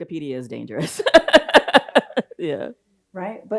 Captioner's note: laughs